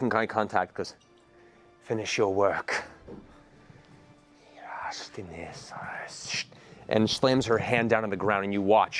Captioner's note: foreign words